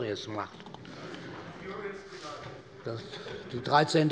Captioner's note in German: Heiterkeit - : Furios vielleicht!